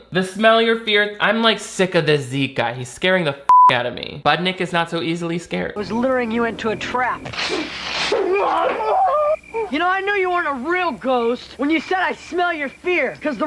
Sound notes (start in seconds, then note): 3.5 beep; 8.2 Zeke the Plumber screams